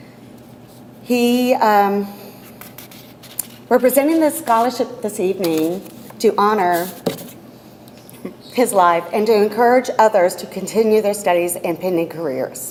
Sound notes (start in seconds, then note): none